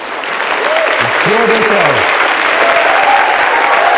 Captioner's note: applause; applause and cheers